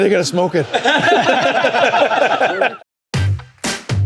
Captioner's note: laughter